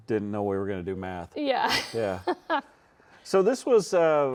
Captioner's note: laughs